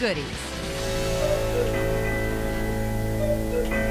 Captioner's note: cuckoo clock